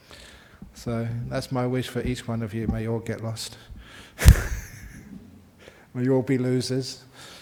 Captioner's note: laughs